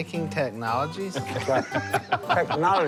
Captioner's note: laughter